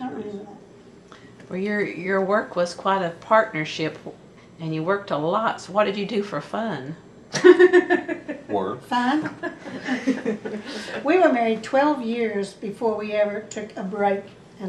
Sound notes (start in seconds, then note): 7.3 laughter